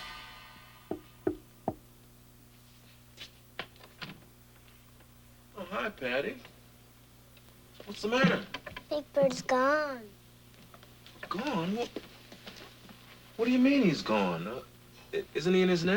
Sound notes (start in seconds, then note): 1.2 knock knock